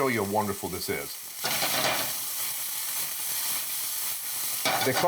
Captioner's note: ingredients sizzling